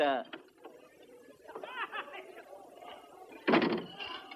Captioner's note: laughter, chatter